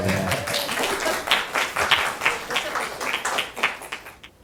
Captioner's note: applause